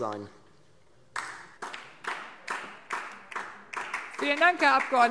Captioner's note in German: Beifall DIE LINKE